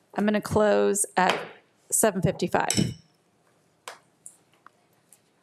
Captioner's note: gavel thuds